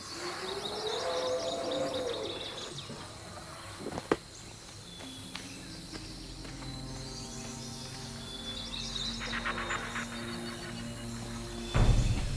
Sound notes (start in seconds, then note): 0.6 creature bellows; 7.6 tense music